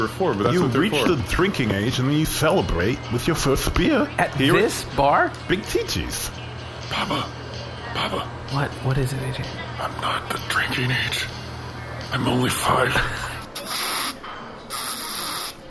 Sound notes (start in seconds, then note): 5.8 matter-of-factly; 7.3 whispering; 9.0 slurring slightly, still whispering